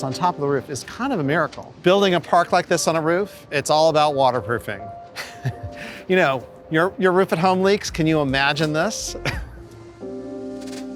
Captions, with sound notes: on top of the roof is kind of a miracle. Building a park like this on a roof, it's all about waterproofing. [laughing] Your roof at home leaks, can you imagine this?